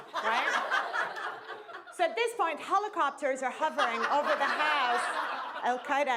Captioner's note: laughter